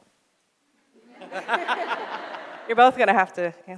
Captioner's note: audience laughs